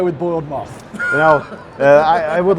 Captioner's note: laughs